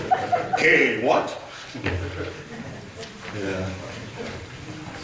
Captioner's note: audience laughter